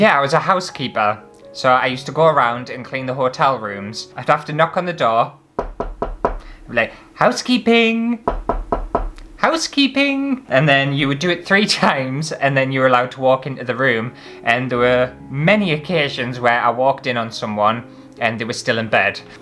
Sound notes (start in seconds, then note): 5.6 knock knock; 8.2 knock